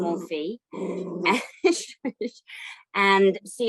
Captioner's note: laughing